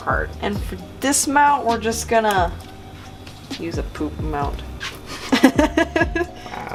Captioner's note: laughs